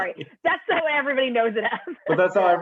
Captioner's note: laughter